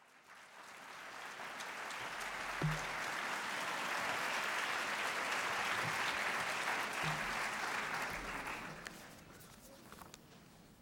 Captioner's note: applause